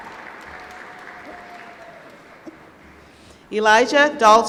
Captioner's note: applause